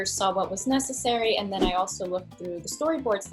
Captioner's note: air whooshing